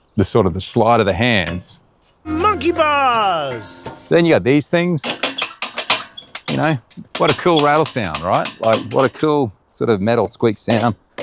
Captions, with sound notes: the sort of the slide of the hands. - Monkey bars. (metal clattering) - Then you got these things. (metal rattling) You know? What a cool rattle sound, right? Like what a cool sort of metal squeak sound.